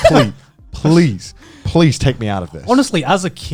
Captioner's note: chuckling